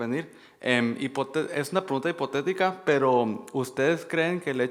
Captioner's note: man speaking Spanish